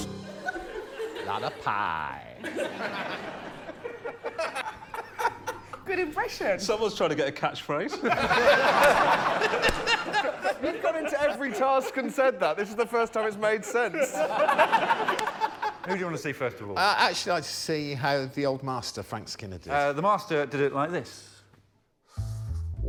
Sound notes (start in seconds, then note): 2.3 laughter; 8.9 laughter; 14.4 laughter